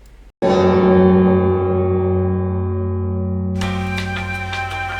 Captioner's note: extremely loud bell again; elevator music